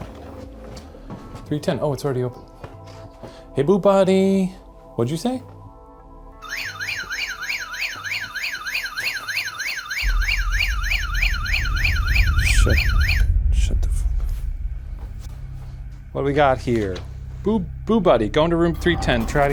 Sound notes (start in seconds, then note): 6.4 siren buzzing